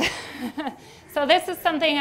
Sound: laughs

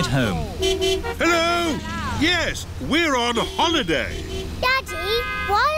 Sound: horns honking

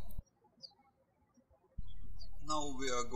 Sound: birds chirping

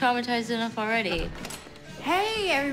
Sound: door opens

